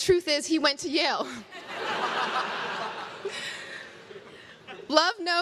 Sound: crowd laughs

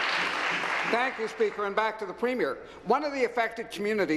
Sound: applause

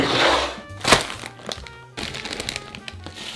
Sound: plastic bag crinkling

